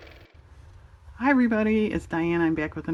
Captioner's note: car motor